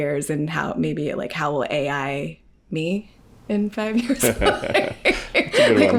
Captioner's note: laughs